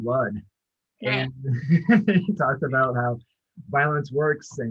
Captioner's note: laughs